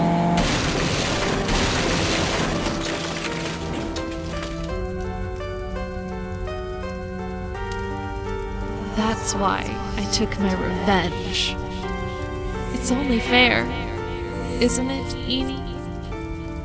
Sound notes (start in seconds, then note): 0.0 motor revving! CRASH!; 5.0 fire crackling; 16.4 fire crackling